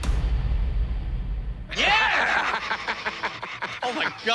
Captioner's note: laughs